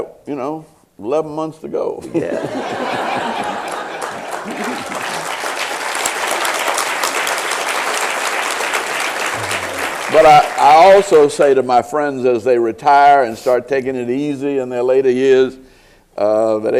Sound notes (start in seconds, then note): 2.1 laughter and applause